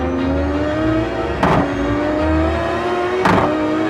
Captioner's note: car bumps